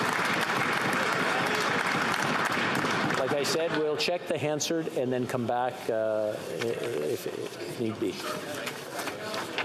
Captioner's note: some Applause